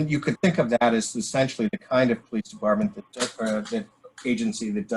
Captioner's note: murmurs